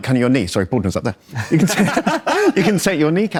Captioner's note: laughs